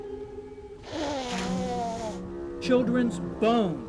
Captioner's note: Mayor blowing nose